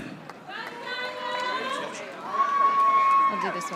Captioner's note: audience applauding